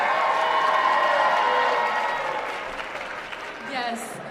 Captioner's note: applause